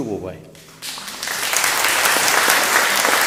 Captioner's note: audience applauding